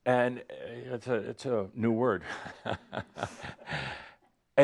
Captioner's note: chuckles